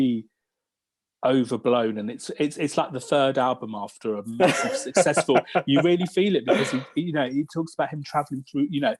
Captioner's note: laughs